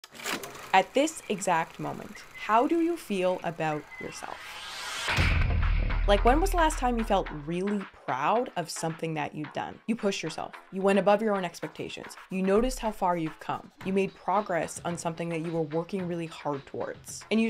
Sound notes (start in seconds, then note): 0.1 projector whirring; 0.2 projector clicking; 5.1 air booming